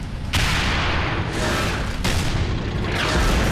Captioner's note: tank turret firing; shell exploding; tank turret firing; shell exploding